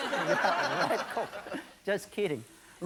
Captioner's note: audience laughing